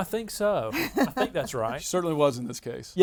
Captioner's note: laughs